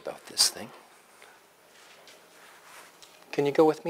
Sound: pause

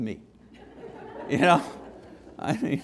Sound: laughter

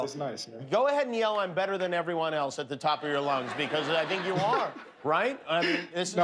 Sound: laughter

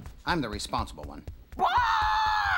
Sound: chicken screams

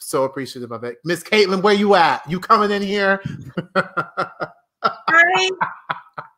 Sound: laughs

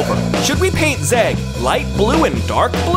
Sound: none

